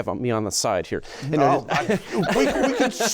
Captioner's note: laughter